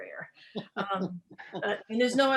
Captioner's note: laughs